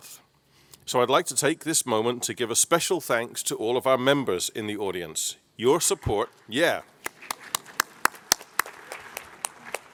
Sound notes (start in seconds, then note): 7.0 claps